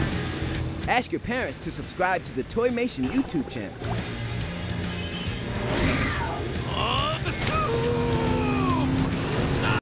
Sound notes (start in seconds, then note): 2.8 rock music; 6.6 grunting